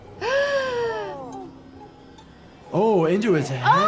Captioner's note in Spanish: música dramática; jadea